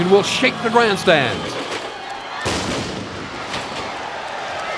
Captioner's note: explodes; crowd roars